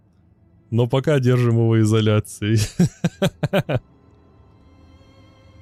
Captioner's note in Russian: смех